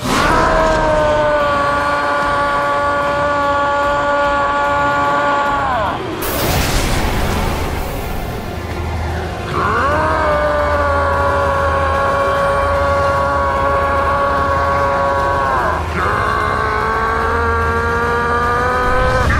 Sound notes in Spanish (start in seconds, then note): 0.0 Gritos; 9.4 Gritos; 15.9 Grita